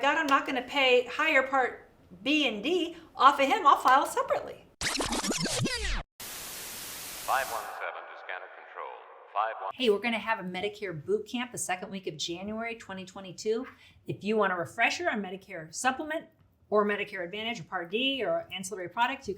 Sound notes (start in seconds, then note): 4.8 record scratches and TV static sounds; 7.4 broadcast voice talking